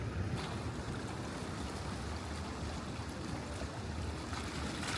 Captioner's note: the sound of gentle waves hitting the stones is strangely therapeutic